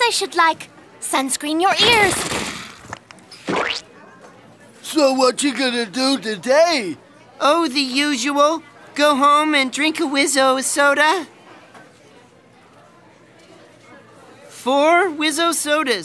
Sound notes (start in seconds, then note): 3.2 squelching